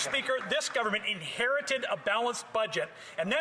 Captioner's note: some Applause